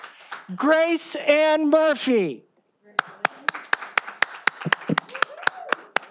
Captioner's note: all applauding